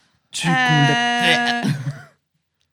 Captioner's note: vomit